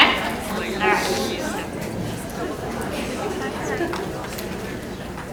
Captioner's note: audience chattering